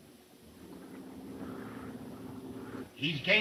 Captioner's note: plane engine rumbling